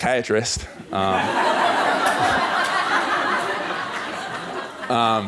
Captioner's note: laughter